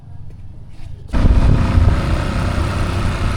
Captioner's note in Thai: เร่งเครื่องยนต์